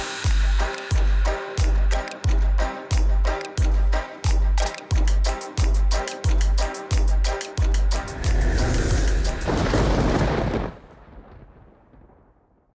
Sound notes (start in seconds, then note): 0.1 mellow music; 7.8 air whooshing; 9.9 thunder rumbling